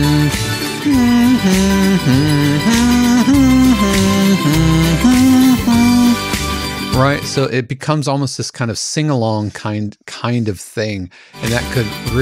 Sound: hums line

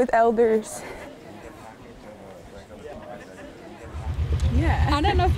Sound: people chattering

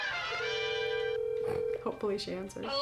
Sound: phone ringing

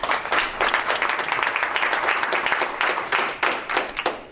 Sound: crowd applauds

